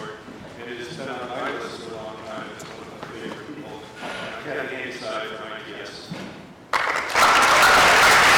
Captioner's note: applause